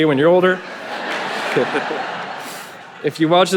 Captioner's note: audience laughing